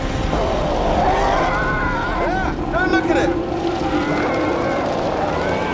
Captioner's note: growling